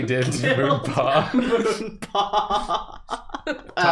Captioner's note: laughing